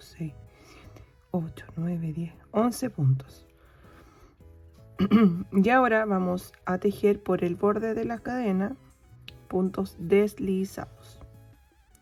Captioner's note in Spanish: carraspeo